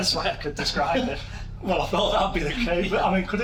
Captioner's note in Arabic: يضحك